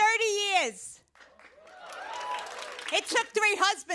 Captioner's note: cheers and applause